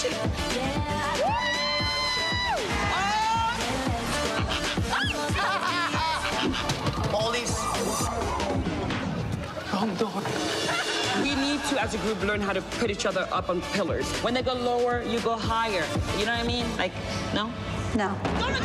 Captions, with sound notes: [screaming] Oh! [squeals] [laughing] Wrong door. We need to, as a group, learn how to put each other up on pillars. When they go lower, you go higher. You know what I mean? -Like, no? -No.